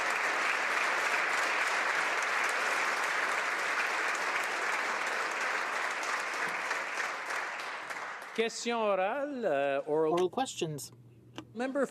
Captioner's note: applause